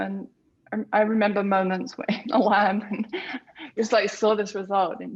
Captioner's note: laughs